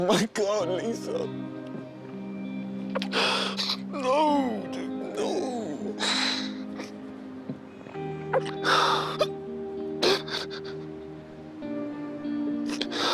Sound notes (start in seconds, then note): 3.0 crying; 10.0 sobbing